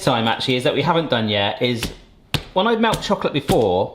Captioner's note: chocolate taps